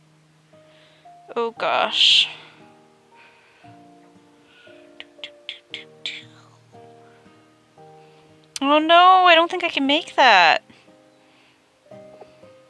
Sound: mouth noises

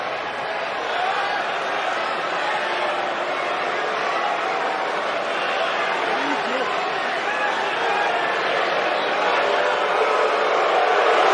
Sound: speaking spanish

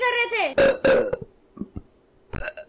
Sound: burp-burrp; series of burps

